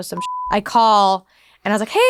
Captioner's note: beeping